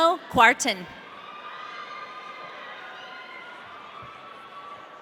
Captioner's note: audience cheering